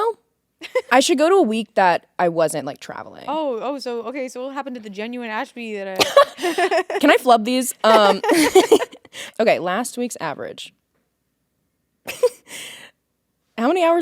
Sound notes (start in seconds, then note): 7.8 laughing; 7.8 both laughing; 12.6 chuckles